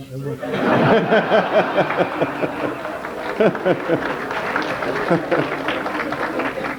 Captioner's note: general laughter and trickle of applause